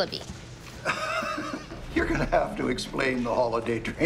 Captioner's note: laughs